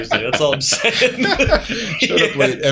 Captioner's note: laughter